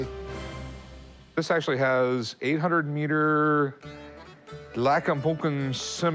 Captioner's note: non-english speech